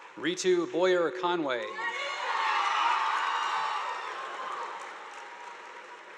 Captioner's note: audience applauding